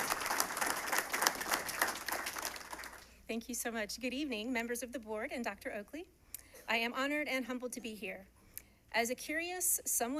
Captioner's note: applause